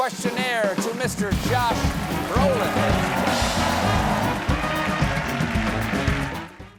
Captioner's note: band playing; cheers and applause